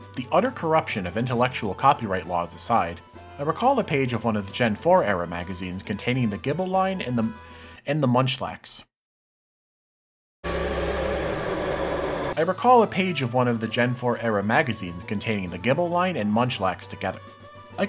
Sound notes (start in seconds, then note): 7.5 inhales; 10.4 horror sting plays